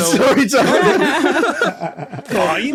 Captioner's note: guests laughing